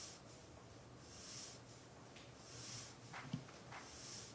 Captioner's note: heavy breathing